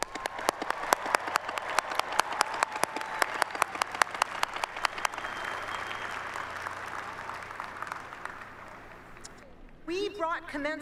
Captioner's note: applause